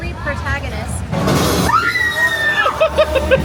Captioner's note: guest screaming; laughing